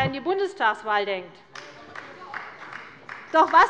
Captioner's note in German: Beifall bei der CDU